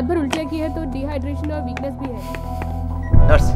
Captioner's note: Footsteps